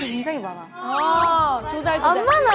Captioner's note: AHH of agreement